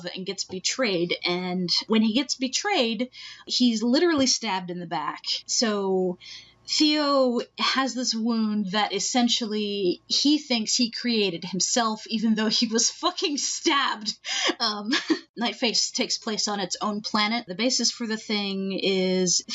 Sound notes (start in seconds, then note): 14.7 laughing